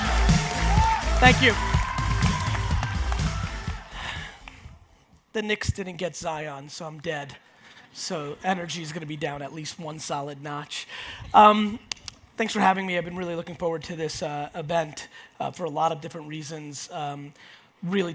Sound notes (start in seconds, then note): 3.9 sighs